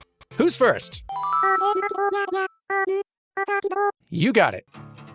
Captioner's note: Animal Crossing dialog sounds